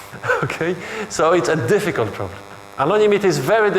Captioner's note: chuckles